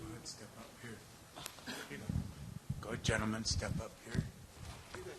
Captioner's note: speaking in native language